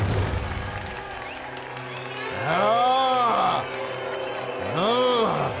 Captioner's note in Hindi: तालियाँ